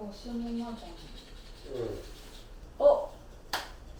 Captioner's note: slap